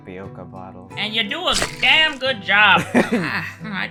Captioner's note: laughter